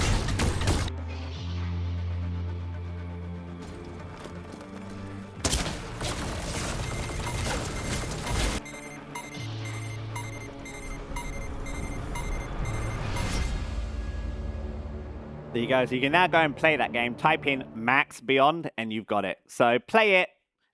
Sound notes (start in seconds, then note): 5.4 shooting; 8.6 timer counting down